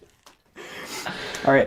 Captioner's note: all laugh